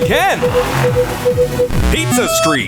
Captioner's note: beeping